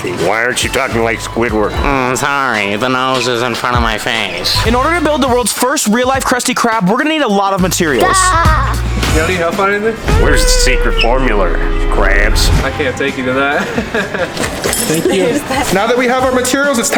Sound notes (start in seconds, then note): 8.3 laugh; 13.6 worker chuckles